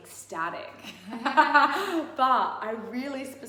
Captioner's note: laughs